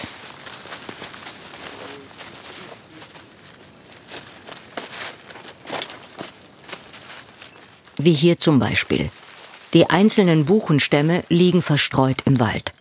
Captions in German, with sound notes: (Rascheln, Knacken) (Leises, metallisches Klirren) Wie hier zum Beispiel. Die einzelnen Buchenstämme liegen verstreut im Wald.